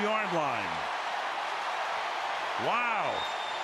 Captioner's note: cheers